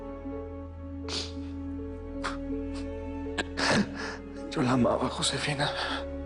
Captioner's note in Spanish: Sollozos